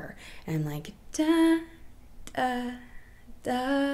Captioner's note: humming